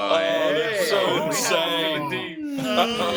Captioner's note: laughter; chattering; laughter and sighing